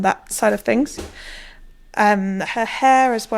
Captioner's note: banging